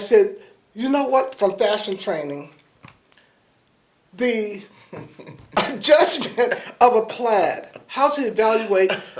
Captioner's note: laughter